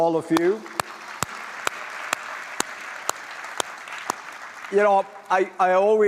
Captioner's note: applause